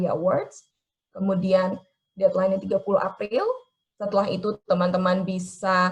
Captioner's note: speaking in foreign language